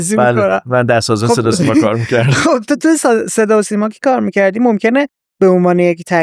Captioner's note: laughs